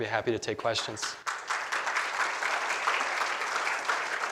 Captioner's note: applause